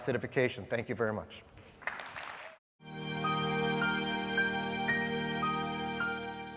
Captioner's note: applause